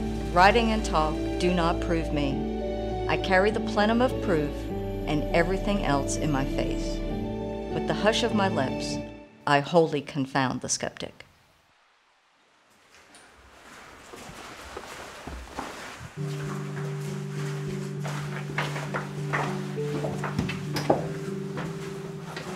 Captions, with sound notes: Writing and talk do not prove me, I carry the plenum of proof and every thing else in my face, With the hush of my lips, I wholly confound the skeptic. (flowing water) (footsteps on rocks)